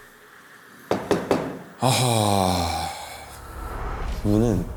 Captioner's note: knock, knock, knock…